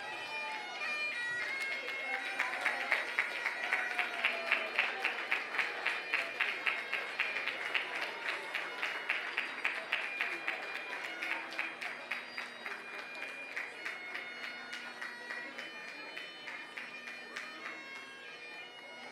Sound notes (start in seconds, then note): 2.7 applause